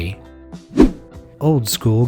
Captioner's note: image whooshing